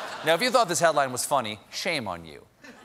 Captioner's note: laughter